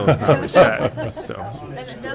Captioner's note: laughter